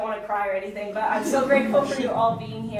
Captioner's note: audience chuckling